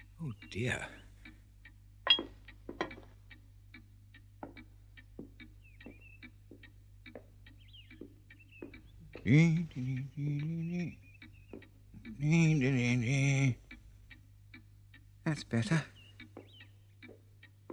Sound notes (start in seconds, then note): 9.0 hums